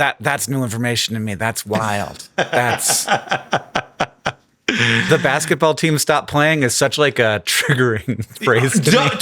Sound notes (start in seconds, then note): 2.3 Sam laughing